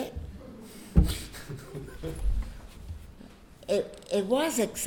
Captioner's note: audience chuckling